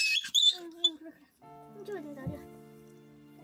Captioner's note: Nari screaming in pain